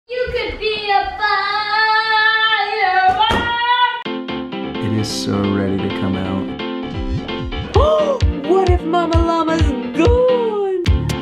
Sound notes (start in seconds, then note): 4.1 lively music; 6.9 gasps